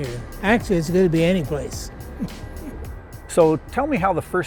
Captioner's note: laughs